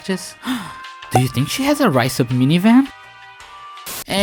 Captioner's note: gasp